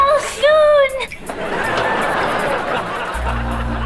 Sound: laughing

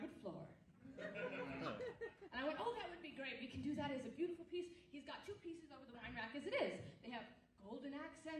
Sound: audience laughs

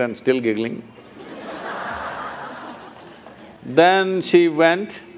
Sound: laughter

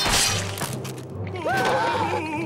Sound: screaming

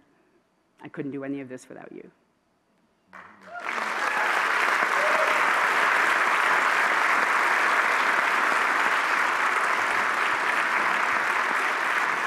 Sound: applause

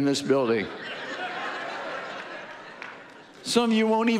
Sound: audience laughing

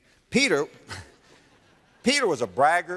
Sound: audience laughter

